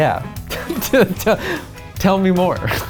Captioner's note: laughs